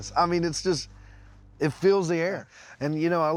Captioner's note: none